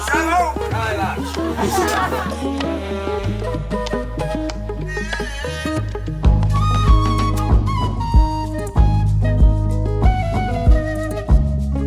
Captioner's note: laughter